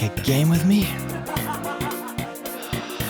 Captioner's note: laughter